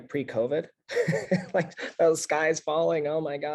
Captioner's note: laugh